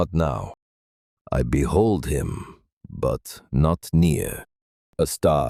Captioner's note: thoughtful